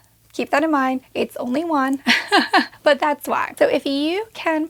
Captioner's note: chuckling